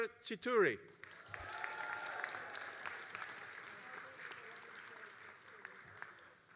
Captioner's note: all applauding and cheering